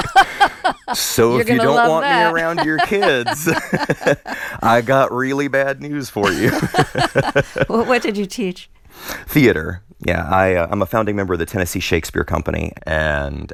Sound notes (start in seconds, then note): 0.0 laughter; 6.2 laughter